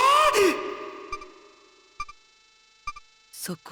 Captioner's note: silence